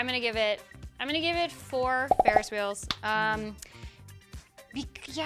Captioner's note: popping